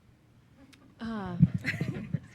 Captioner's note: laughing